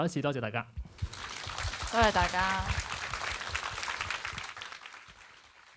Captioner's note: applauds